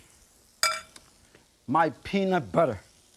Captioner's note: spoon clanking